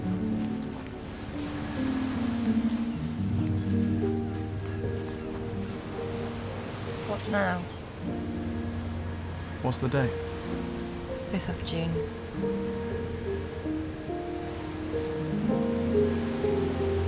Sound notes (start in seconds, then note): 4.3 birds cawing; 11.9 dramatic music